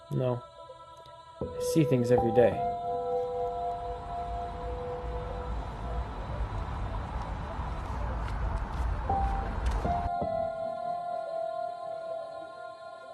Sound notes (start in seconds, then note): 3.7 soft music; 5.2 traffic humming; 10.6 soft music